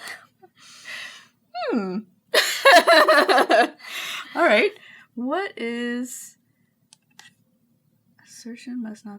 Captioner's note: laughing